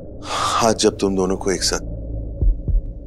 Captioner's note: Gasps